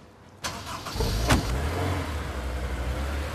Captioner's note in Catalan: motor: s'engega